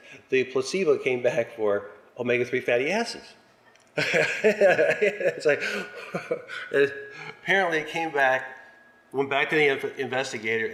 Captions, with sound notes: the placebo came back for omega-3 fatty acids [laughs]. It's, like -- apparently, it came back -- went back to the investigator,